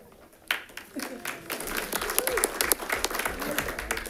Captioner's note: audience clapping